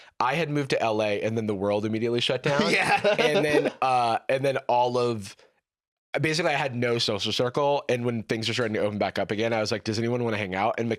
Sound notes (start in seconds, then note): 2.5 laughs